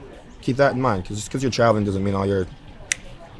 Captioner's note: snaps